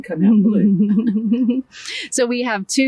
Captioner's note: laughing